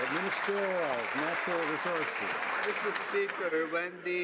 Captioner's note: some Applause